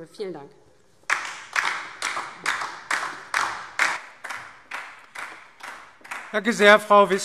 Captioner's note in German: Beifall DIE LINKE